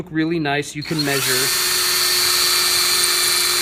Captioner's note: whirring